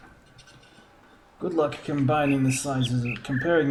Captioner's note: bird chirps ˧ ˧ ˥ ˧ ˩